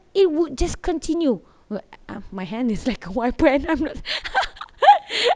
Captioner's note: giggling